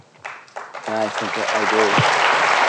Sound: applause

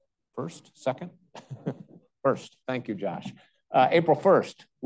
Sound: chuckles

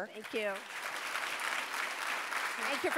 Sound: audience applauding

